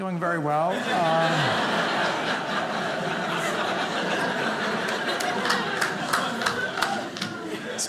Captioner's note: audience laughing